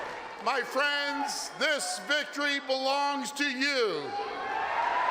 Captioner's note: applause and cheering